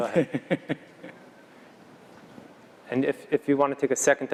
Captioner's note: laugh